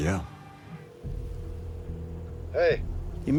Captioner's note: phone rings